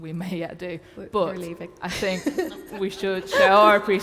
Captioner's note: laughs